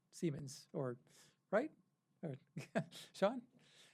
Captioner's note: laughs